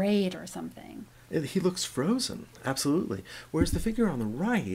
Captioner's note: voiceover